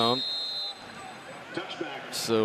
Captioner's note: whistle